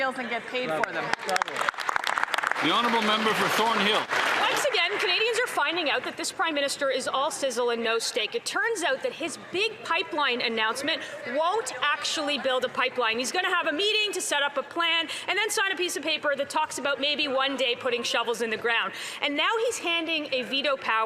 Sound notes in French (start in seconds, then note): 9.7 voix de l'interprète